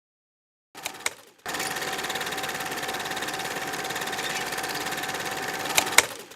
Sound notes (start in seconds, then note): 1.4 film reel whirring